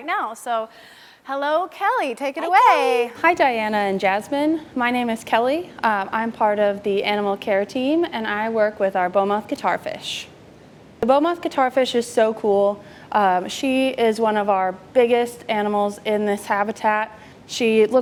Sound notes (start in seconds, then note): none